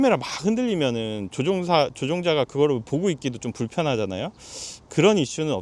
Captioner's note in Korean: 콧방귀